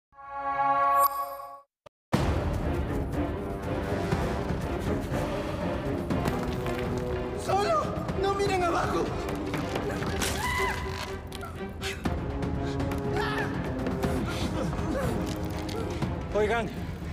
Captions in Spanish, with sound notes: [música de suspenso] Solo no miren abajo. [grita] Oigan.